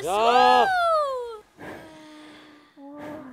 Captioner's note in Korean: 날숨 들숨